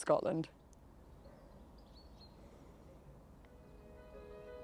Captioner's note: birds chirping; bright music